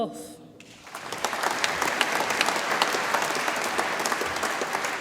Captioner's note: audience applauds